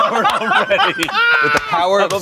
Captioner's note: everyone laughs